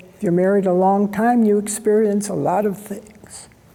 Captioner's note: none